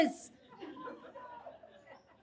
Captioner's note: audience laughs